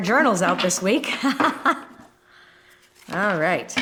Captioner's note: laughing